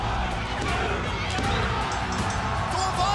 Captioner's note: cheers and applause; bell ringing